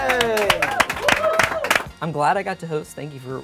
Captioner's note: cheering